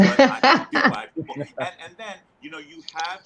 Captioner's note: laughing loudly